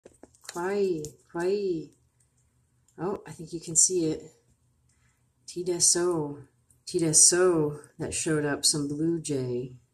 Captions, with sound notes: "Kwai" [Speaking Abenaki] =Hello I think you can see it "Tidesso" [Speaking Abenaki] =Blue Jay That showed up, so, Blue Jay....That was